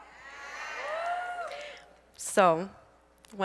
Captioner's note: audience cheers